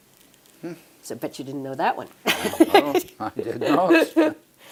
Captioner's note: laugh